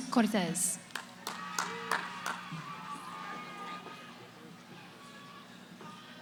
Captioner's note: cheering